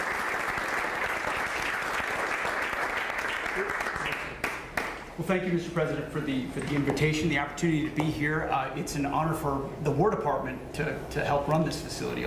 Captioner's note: applause